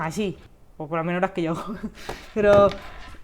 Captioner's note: laughs